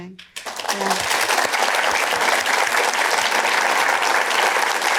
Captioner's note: applause